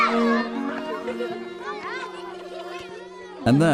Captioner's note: screams